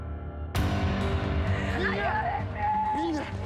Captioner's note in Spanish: Gritos